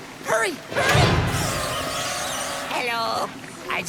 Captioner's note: exit slams shut, they skid to a stop